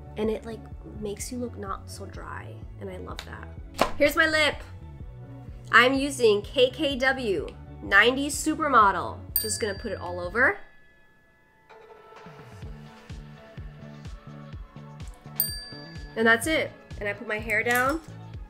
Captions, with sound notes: And it like makes you look not so dry, and I love that. Here's my lip. I'm using KKW 90's Supermodel. Just gonna put it all over. [upbeat music] [bell ringing] And that's it. And I put my hair down.